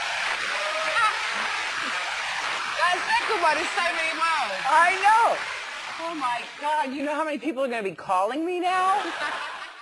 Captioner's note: laugh